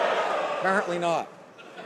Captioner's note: some Applause